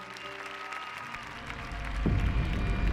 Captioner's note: applause